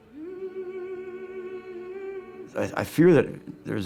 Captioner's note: woman humming